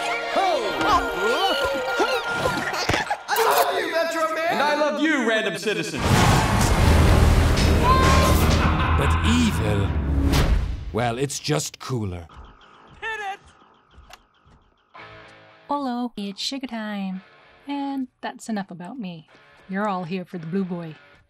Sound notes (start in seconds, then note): 1.2 baby giggling; 6.0 ominous music; 7.8 cheers